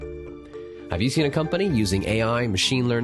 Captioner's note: voiceover